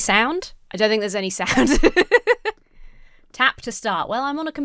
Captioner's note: laughs